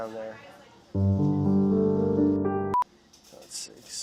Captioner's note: somber music; beeping